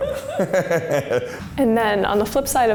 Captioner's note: both laugh